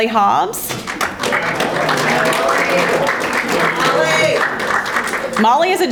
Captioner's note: audience applauding